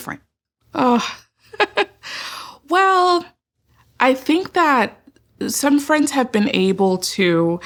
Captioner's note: laughs